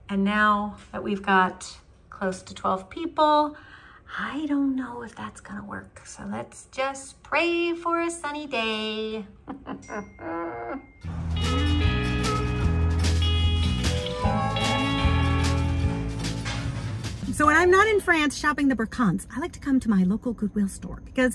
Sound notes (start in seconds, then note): 9.3 laughs; 11.0 upbeat music